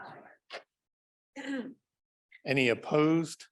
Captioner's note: clears throat